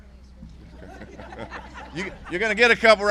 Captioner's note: laughter